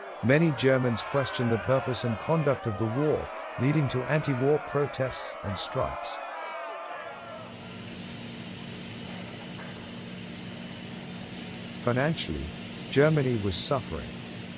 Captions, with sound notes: Many Germans questioned the purpose and conduct of the war, leading to anti-war protests and strikes. [crowd jeering] [machines whirring] Financially, Germany was suffering.